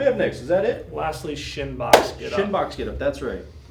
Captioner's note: claps